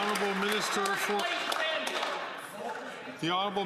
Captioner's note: some Applause